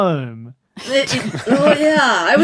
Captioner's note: group cracks up